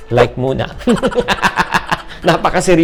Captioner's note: laughs